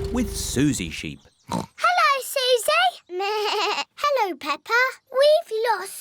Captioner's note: oinks; bleats